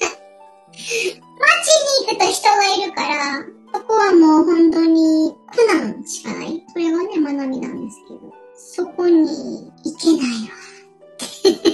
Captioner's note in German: lacht